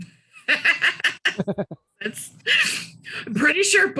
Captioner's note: laughing